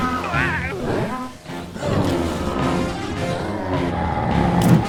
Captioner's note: riverbeast roars